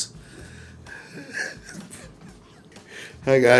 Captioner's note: Cedric laughs